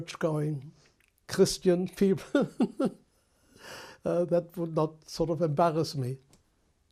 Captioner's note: laughs